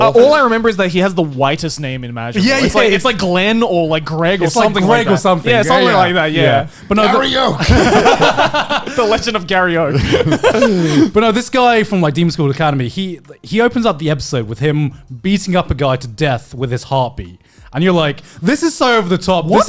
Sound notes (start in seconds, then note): 5.8 laughing